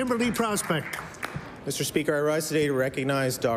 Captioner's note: applause